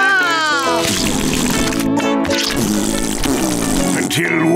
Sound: crying; doing raspberries

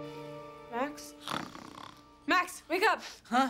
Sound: snoring loudly

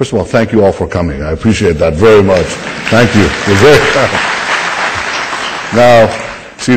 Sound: audience applause

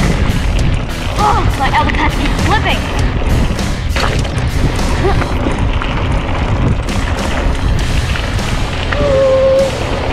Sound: random noises makes and her elbow pads continuously slipping

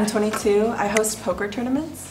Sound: soft clicking

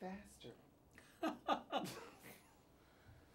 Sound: both laugh

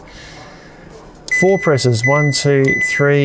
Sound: fridge beeps

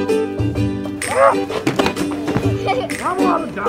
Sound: Rubble yelling; assistant laughing

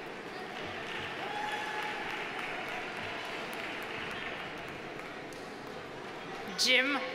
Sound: audience applauding; audience cheering

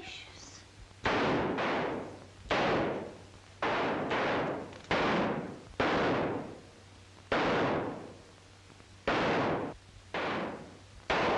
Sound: gunfight

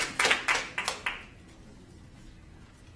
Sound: applause

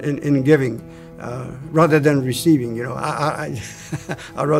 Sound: laughing

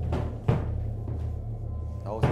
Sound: thud, thud

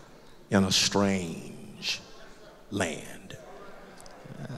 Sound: loud crowd murmurs

